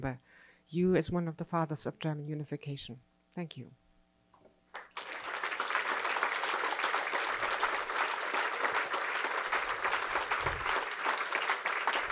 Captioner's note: applause